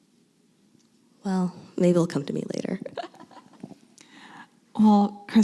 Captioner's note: laughs